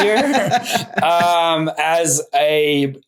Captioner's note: laughing